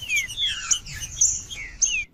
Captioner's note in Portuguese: trinca ferro cantando